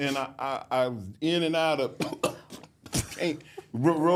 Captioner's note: coughs